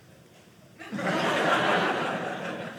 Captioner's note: audience laughing